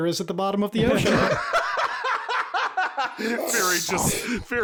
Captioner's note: howls with laughter